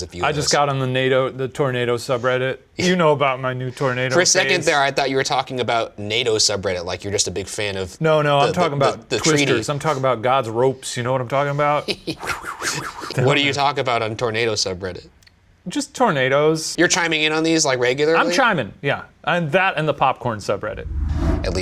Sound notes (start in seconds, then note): 11.8 chuckling; 12.2 mimicking air whooshing